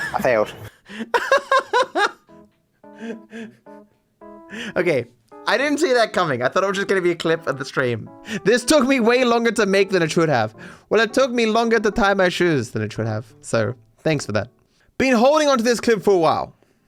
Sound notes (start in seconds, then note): 0.0 laughs